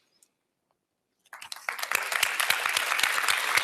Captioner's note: applause